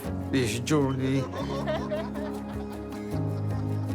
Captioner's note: all laugh; inspiring music